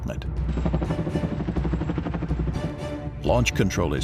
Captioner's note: helicopter whirring